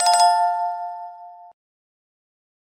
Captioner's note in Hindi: घंटी की आवाज़